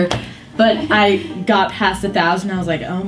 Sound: girl laughs

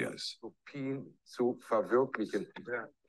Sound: speaking german

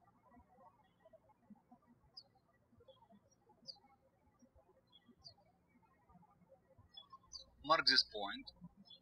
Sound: birds chirping

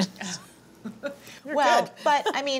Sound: laughs

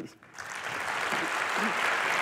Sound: applause

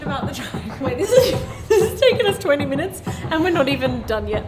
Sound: all laughing

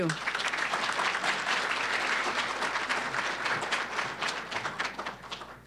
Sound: applause

